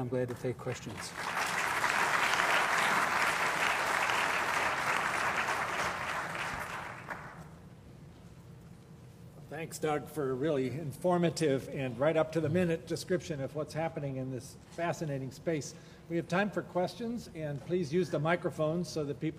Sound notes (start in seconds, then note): 4.8 applause